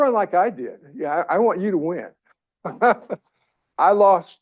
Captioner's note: chuckles